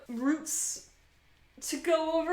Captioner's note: swish swish